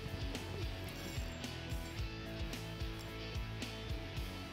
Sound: fishing rod clicking

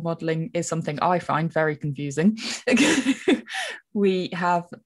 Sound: laughs

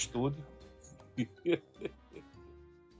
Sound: laughter

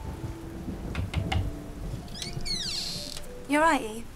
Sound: door knocks

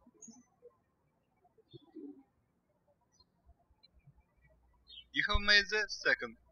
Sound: birds chirping

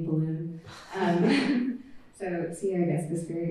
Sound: laughter

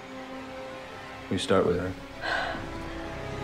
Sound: sighs

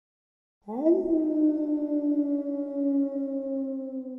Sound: wolf howling

